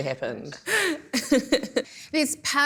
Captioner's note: laughs